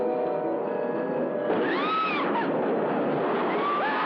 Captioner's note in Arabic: صراخ